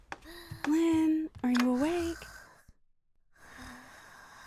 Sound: slow breaths

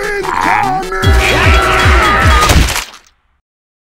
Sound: screams

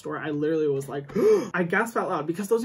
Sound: gasps

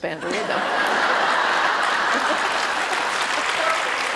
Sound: audience laughter and applause

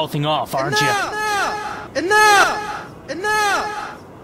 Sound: echoing

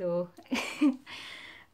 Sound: laughs

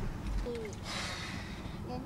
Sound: sigh

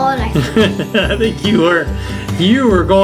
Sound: laughing

